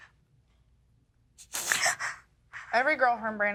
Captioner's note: sobbing